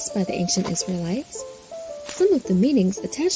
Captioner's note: wind wooshing softly; mattocks chopping